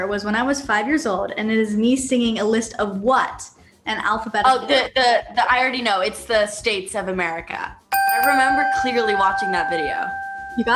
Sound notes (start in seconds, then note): 7.9 bell chimes